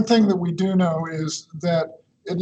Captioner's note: chuckles